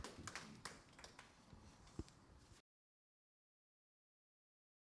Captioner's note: audience applauding